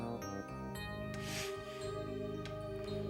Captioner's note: sniffling